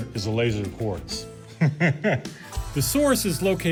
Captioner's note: laughs